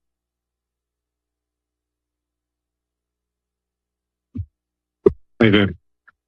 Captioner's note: silence